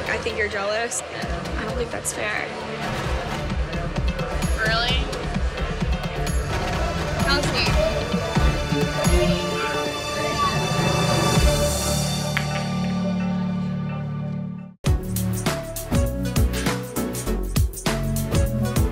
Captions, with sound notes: - I think you're jealous and I don't think that's fair. - Really? - Kelsey. (dramatic music) (pool stick hitting ball)